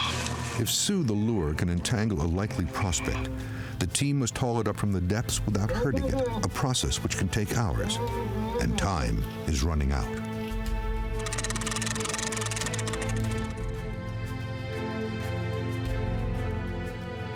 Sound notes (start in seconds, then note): 11.2 cranking; 12.8 dramatic music playing